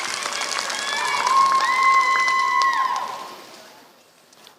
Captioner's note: applause